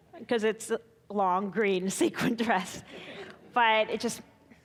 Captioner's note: chuckling